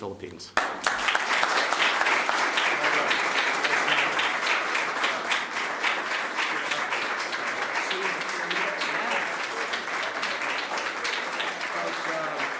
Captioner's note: applause